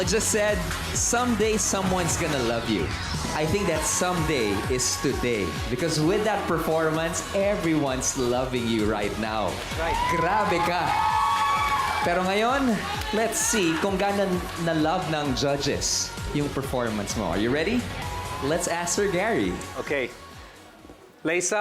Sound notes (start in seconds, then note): 11.5 audience cheers